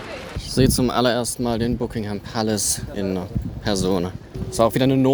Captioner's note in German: Northern Accent